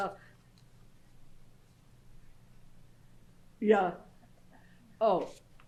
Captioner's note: pauses for 3 seconds